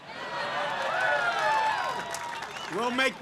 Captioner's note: applause